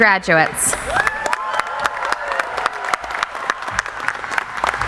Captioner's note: audience applauding